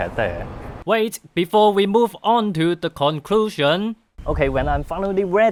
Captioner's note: voiceover